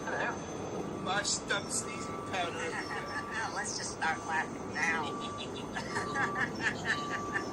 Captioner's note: laughs